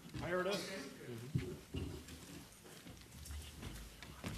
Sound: voiceover

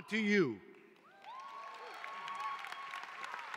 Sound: cheering

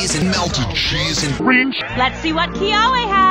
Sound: In pitched-down Olivia's voice

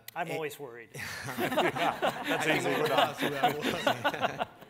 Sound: everyone laughs

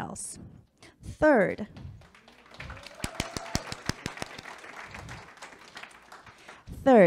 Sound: public clapping

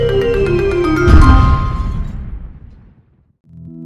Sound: big boom

